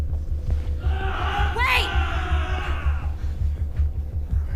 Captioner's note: men groaning